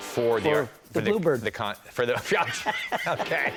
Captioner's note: laughing